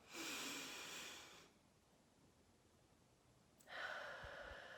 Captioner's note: deep breath inhaling; deep breaths exhaling